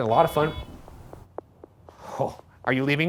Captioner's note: Flux beeping